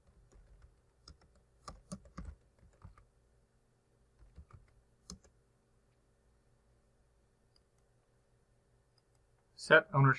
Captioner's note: typing